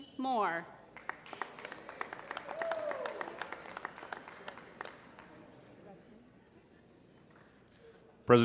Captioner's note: applause